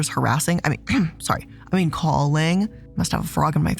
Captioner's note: coughs